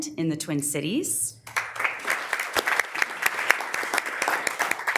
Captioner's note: members applauding